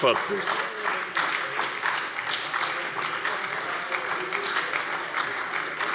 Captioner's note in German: Heiterkeit und Beifall bei der SPD